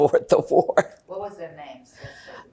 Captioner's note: laughing